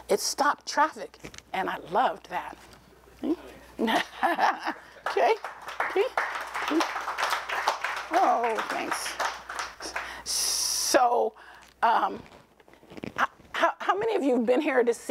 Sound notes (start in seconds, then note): 3.7 laughing; 4.6 applause